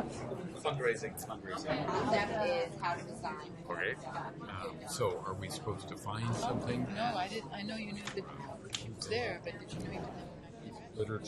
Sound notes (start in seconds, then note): 1.0 voiceover; 7.3 voiceover